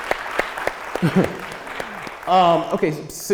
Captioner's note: applause